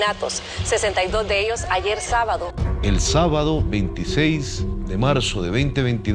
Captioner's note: none